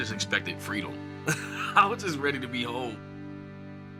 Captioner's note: laughs